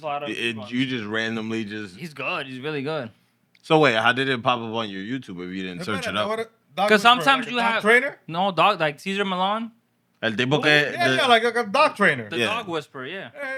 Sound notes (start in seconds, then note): 10.2 speaking Spanish